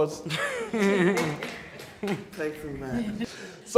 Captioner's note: laughter